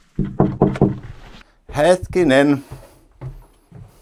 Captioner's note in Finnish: koputtaa oveen